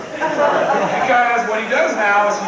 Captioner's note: crowd laughs